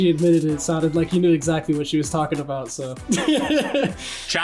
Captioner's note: laughs